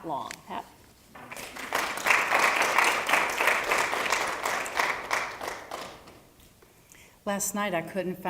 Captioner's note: applause